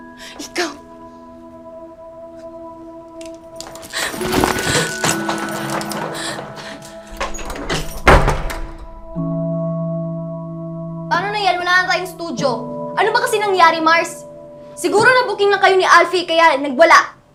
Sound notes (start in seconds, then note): 8.1 door closes